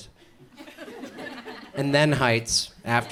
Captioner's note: audience chuckles